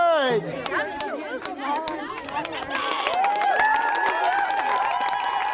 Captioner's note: clapping/applauding